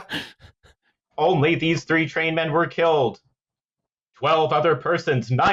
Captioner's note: laughter; '30s voice